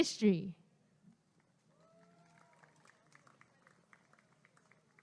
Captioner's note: applause and cheering